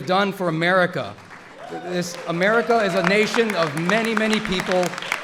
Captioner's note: applause